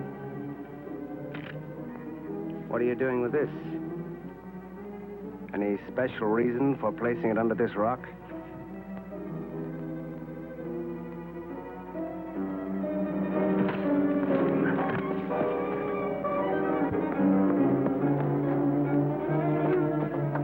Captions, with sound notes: What are you doing with this? Any special reason for placing it under this rock? (thwacking) (dramatic music)